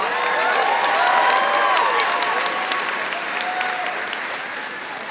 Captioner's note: crowd cheering and clapping